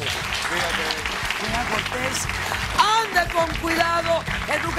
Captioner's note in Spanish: aplausos